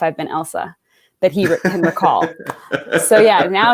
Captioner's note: laughs